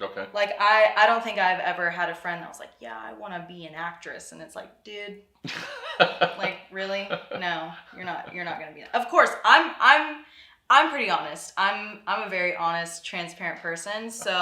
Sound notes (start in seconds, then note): 5.5 laughs; 5.9 gibbering